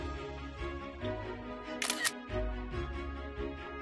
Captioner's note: camera shutter sound